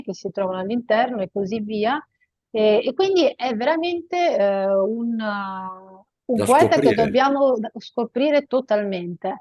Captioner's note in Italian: schiarire la voce